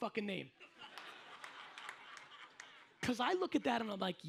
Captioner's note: audience laughs